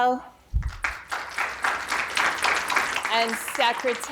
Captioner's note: audience applauding